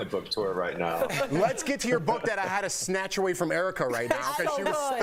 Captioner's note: laughter